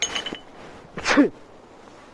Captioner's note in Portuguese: espirro